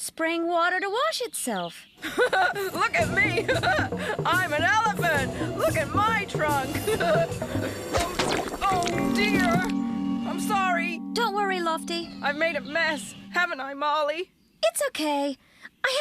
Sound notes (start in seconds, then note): 2.0 laughing; 7.8 thump!